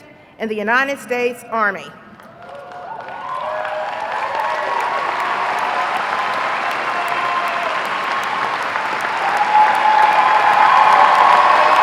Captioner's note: applause